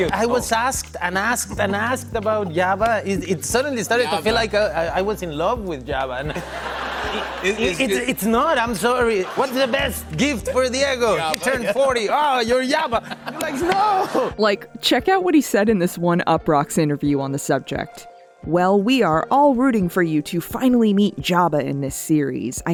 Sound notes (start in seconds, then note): 6.2 laughter